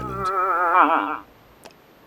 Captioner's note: moose whiny